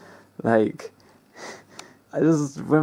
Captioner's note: lols